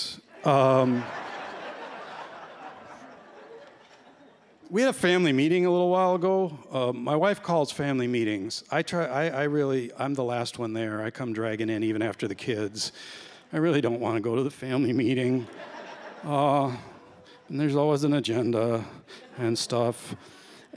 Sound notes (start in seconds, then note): 0.4 laughter; 15.4 laughter